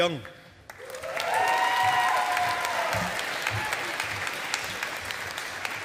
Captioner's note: audience applauding